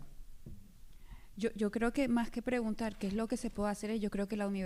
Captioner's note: speaking spanish